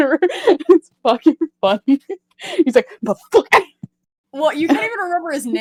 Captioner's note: laughs